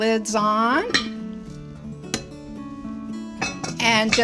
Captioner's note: lid clinking